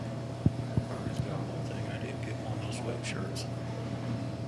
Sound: faintly speaking

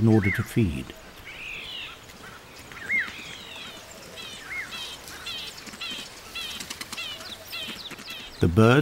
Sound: birds chirping

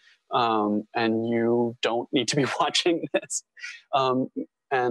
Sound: chuckle

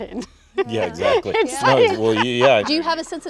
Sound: Winona laughing

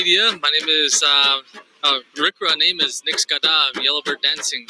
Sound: speaking foreign language

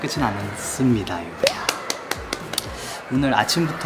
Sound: applause

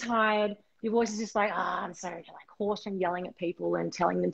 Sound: hoarse voice

